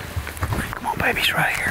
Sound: rustling

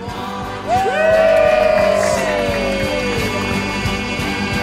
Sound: all cheer; upbeat music

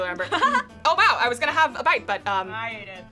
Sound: laughs

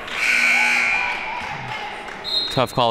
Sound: siren buzzing

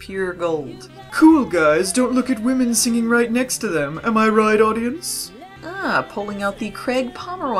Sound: in a posh voice

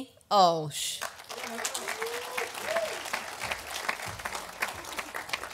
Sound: audience applauding

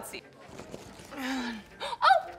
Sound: grunting

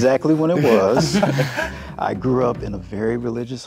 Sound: group laughing

